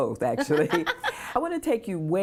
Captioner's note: laughter